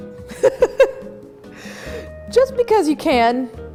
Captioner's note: laughs